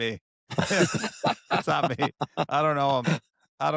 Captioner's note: laughter